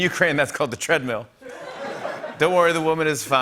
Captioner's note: laughter